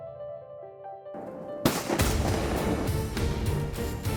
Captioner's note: gun shots